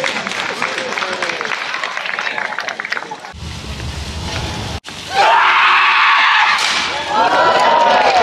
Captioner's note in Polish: Aplauz